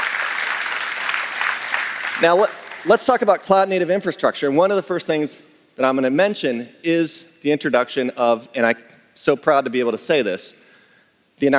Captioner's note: applause